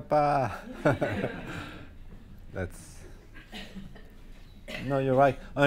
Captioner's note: audience laughing